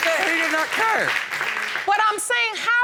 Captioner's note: audience applauding